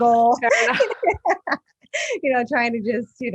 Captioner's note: laughing